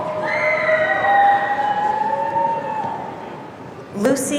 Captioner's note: audience cheering